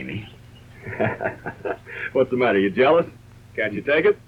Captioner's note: laughs